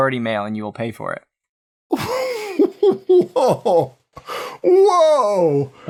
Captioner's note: laughter